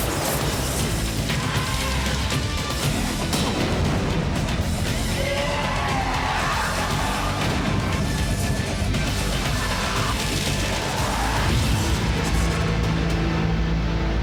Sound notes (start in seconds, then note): 0.1 traffic lights booms; 2.6 bomb booms